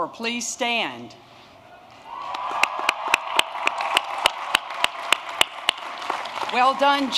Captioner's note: applause